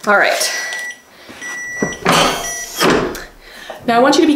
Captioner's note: press beeping